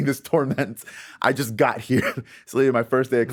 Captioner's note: laughing